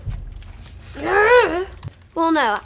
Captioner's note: Frank grunts